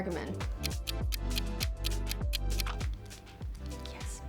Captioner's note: clock ticks